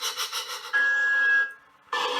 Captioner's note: engine chuffing; thomas tooting